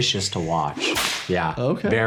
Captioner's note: whip cracks